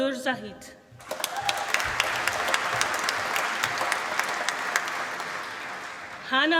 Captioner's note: applause